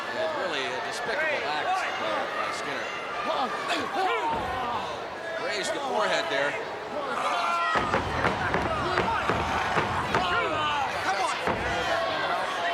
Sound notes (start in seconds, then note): 7.4 wrestlers grunting